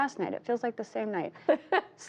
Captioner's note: laughter